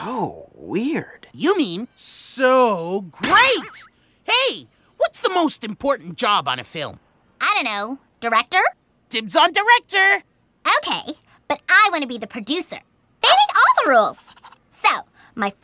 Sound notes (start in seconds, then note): none